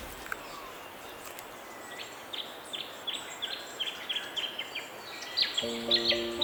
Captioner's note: birds chirping